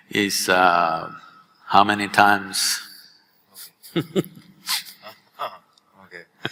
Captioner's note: both laugh